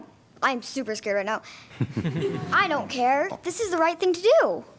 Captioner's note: laughter